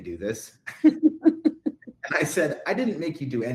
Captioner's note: laughing